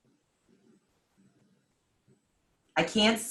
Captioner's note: silence